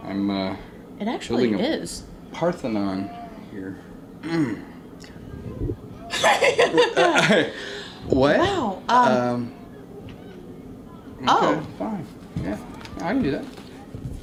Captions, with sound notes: I'm, I'm feeling a-- It actually is. Parthenon here. (clears throat) (laughing) What? Wow. Oh. Okay, fine. Yeah, I can do that.